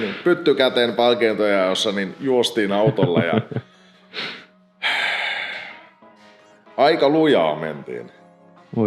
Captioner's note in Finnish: pyskähdys